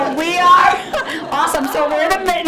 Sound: audience laughs and chatters

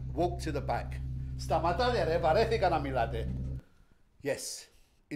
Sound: speaking in Greek

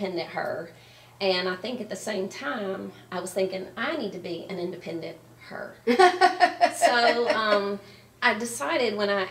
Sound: laughing

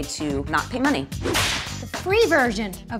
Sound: whip cracks

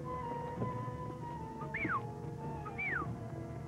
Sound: whistle

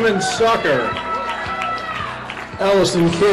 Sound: audience cheering; audience clapping

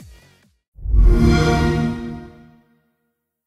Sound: xbox sound

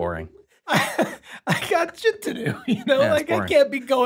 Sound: laughs

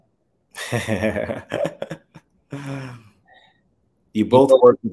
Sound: chuckles

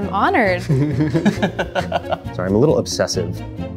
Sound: laughing nervously

